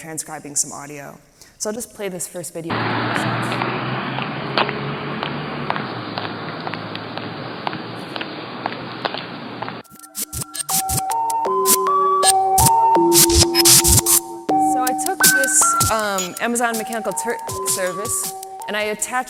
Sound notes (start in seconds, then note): 2.7 engine revving; 4.0 heels clicking; 9.8 electronic music